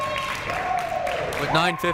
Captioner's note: crowd clapping